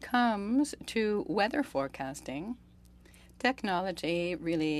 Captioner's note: speaking French